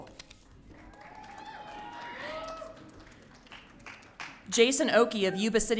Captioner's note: audience cheering